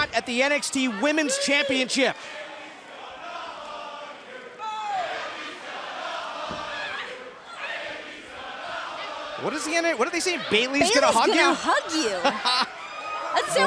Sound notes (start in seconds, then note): 5.0 fans chanting